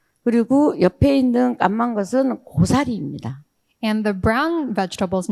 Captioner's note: speaking in foreign language